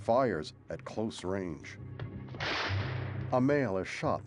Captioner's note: gunshot